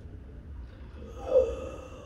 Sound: the sound of a gasp

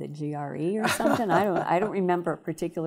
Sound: laughing

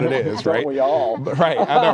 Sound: laughter

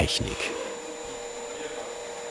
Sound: loud machine whirring

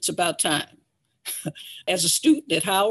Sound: chuckles

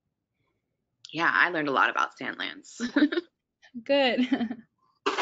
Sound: laughs

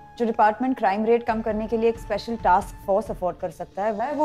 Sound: none

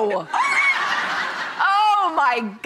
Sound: laughing

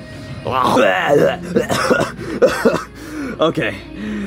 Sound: Bowser Jr. throwing up

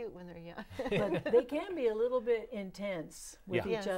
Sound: laughing

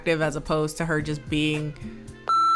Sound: beep

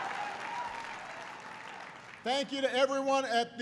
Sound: applause

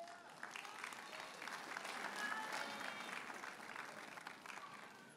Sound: audience cheers and applauds

